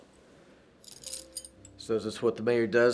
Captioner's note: soft piano music; spurs jangling